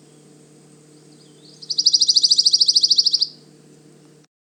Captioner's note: pine warbler singing